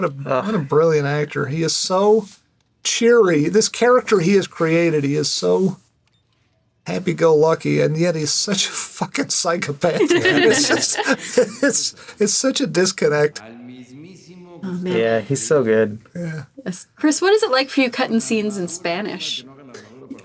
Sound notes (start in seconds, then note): 9.9 laughs